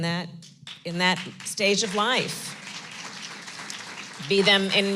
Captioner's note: applause